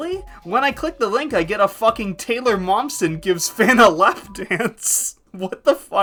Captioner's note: laughing